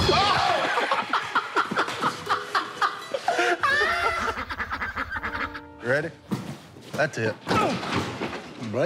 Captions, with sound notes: [laughter] [ducks quacking] Ready? That's it. Blake Griffin, boys.